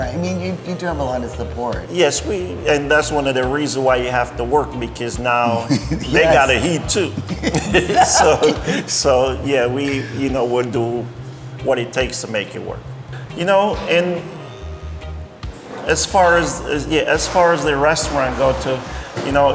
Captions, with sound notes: I mean, you do have a lot of support. - Yes. And that's one of the reason why you have to work, because now they got to eat too. (both laughing) So yeah, we would do what it takes to make it work. Yeah, as far as the restaurant go to,